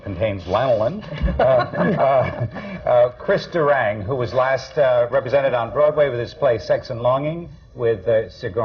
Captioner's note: laughter